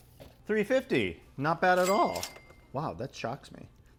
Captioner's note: register ka-ching